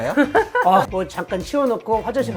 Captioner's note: just laughs